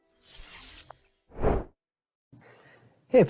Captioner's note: air whooshing